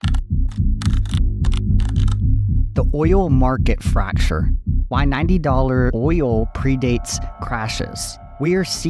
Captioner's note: keyboard typing